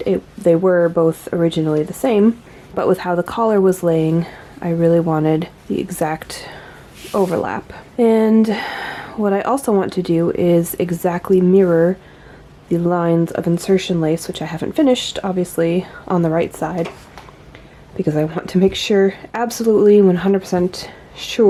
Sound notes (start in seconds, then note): 8.2 sighs